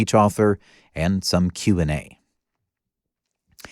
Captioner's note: none